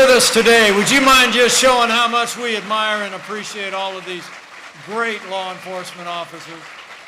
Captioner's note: applause